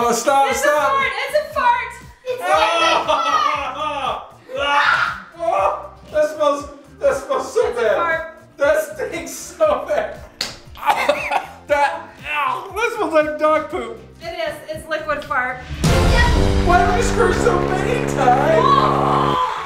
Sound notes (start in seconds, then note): 2.4 laughing and gagging; 10.7 laughing; 10.7 coughing